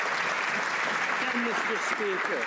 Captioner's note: some Applause